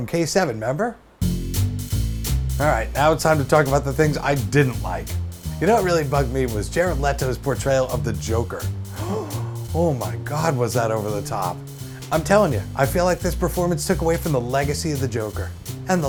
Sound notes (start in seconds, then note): 8.9 gasp